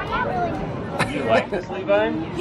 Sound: laughing

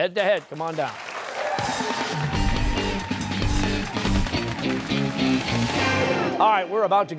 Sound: applause

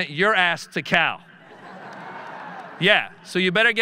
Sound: audience laughing

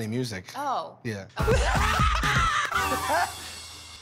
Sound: laughter

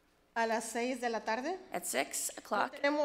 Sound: speaks foreign language

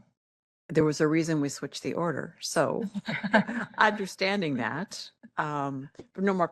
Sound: laughing

